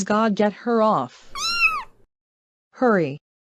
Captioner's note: meow